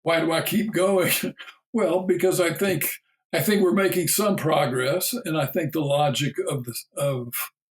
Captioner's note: chuckle